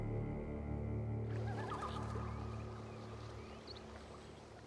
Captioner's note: les oiseaux gazouillent